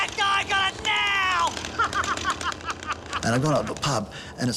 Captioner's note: laughs